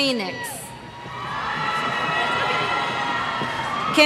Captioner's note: cheers